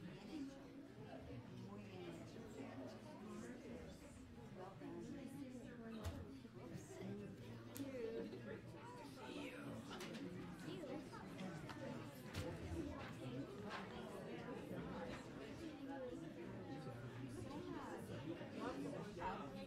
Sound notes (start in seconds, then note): 14.5 overlapping chattering